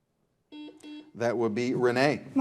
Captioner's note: buzzer buzzing